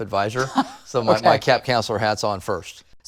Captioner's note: laughs